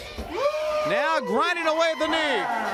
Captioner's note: crowd cheering